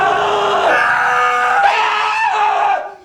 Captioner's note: Abe screams; Ulysses screams